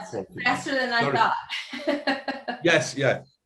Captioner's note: laughs